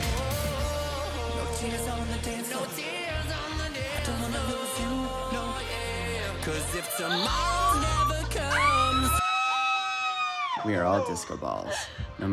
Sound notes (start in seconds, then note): 9.8 shrieking